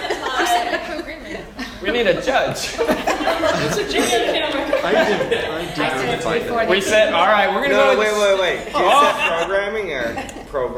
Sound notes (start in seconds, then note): 1.7 laugh; 4.3 conversation